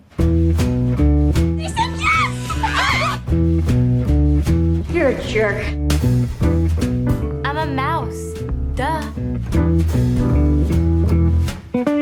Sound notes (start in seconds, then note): 0.2 jazzy music; 1.6 girls exclaiming; 3.4 jazzy music; 9.2 jazzy music